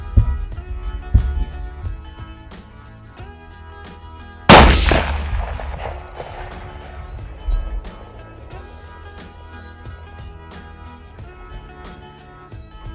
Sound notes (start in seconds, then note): 4.5 gun shot